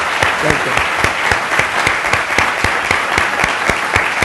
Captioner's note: applause